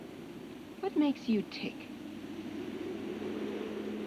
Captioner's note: none